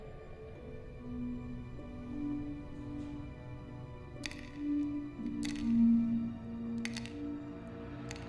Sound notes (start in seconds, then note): 4.7 medicines clatter